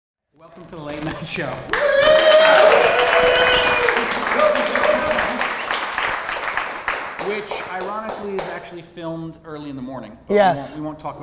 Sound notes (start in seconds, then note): 1.5 crowd cheering; 1.7 laughs